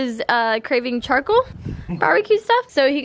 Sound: dad laughs

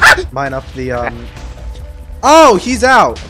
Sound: squeals; explosions

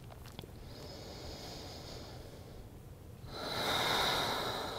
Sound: inhales and exhales

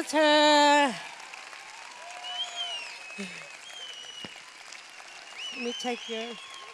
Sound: cheers

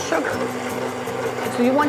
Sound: machine rumbling

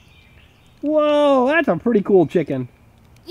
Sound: voiceover

